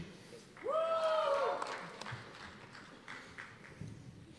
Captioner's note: cheers and applause